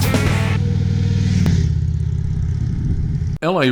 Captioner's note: motorcycle engines rumbling